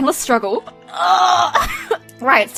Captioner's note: groaning